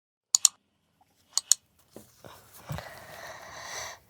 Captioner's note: mouse clicking